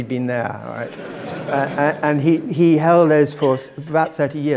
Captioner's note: laugh